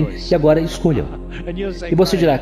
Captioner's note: laughs